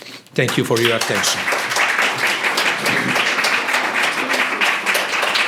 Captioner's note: applause